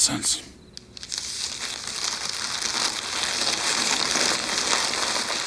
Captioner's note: paper rustles